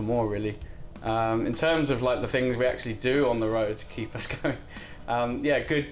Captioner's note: laughs